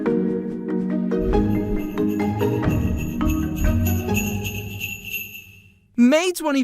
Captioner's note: upbeat music; sleigh bells